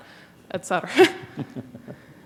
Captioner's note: chuckle